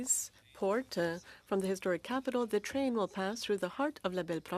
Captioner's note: speaking French